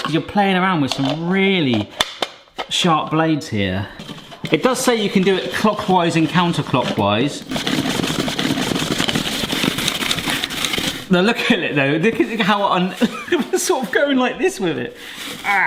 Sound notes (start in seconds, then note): 7.5 spiralizer rattling